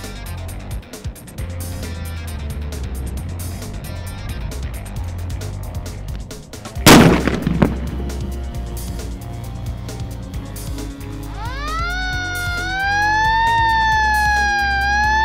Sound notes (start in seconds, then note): 6.8 loud explosion; 11.3 emergency sirens